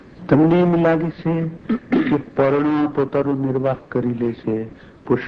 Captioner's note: speaking foreign language